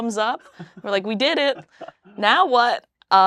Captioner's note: laughs